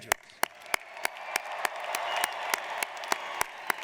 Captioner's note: applauding